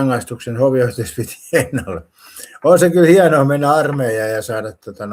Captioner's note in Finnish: naurua